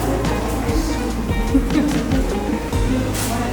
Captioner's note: laughs